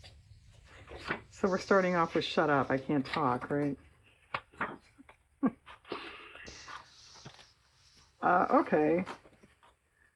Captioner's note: laughs